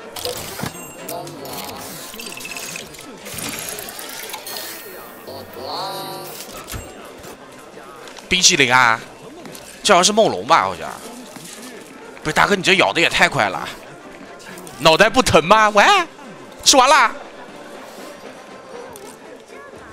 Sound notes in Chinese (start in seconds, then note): 5.2 泣不成声